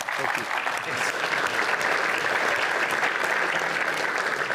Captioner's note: applause